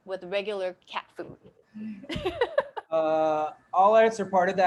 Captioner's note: laughing